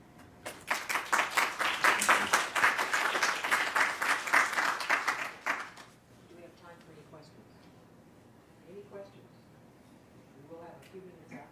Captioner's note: applause